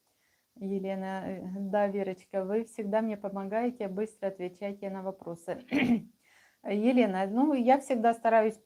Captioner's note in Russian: откашливается